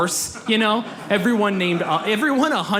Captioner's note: audience laughs